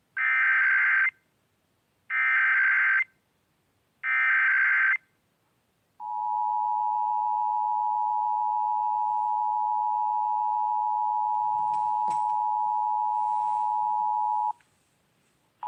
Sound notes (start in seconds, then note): 0.2 eas header; 6.0 attetion tone